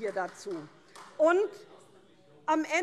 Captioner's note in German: Beifall SPD und CDU